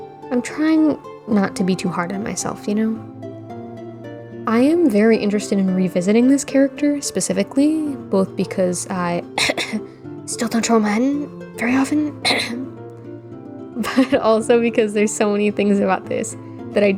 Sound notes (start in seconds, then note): 9.3 cough cough